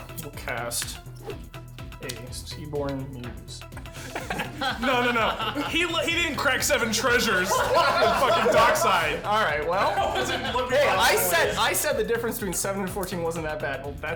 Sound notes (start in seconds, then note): 4.1 players laughing